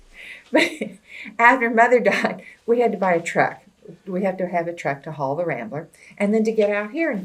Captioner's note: laughs